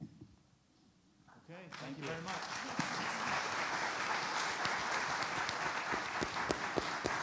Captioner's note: audience applauds